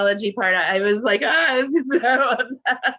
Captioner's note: laughing